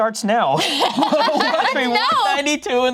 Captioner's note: laughs